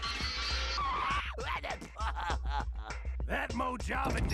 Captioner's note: laughing